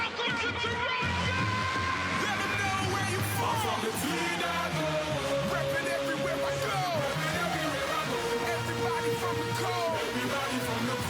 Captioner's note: yelling